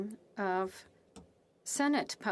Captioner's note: speaking French